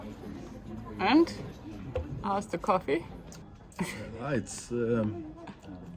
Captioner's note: chuckling